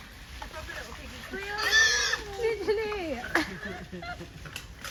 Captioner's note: pig squeals; laughter